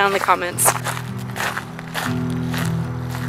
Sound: dirt crunching

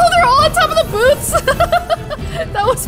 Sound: laughs

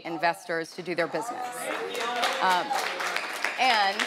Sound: audience applauding

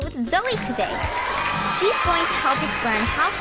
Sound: audience cheering

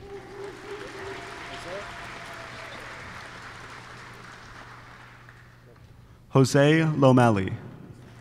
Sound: applause

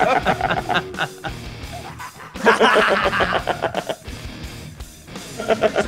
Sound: laugh

